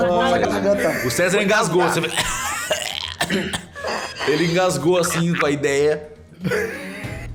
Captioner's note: cough